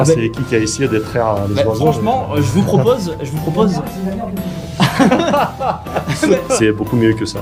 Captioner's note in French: rires